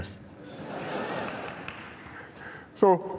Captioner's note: laughter